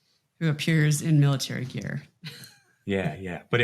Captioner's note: chuckles